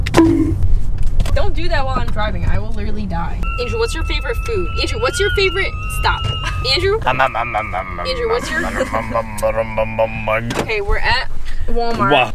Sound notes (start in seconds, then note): 3.4 makes alien noise